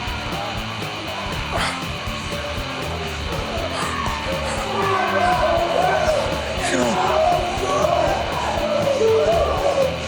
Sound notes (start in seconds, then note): 1.5 shouting